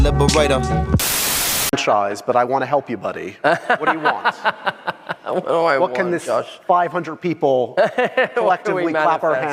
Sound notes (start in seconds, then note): 3.4 laughs; 7.8 laughs